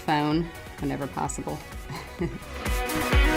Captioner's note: laugh